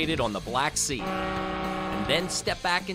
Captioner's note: boat horn roaring